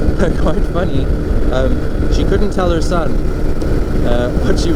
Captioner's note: laughing